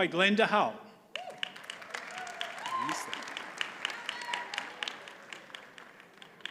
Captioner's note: audience cheers and applauds